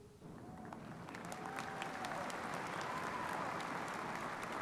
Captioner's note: audience applauding